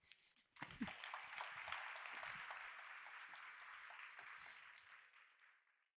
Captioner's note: audience applauding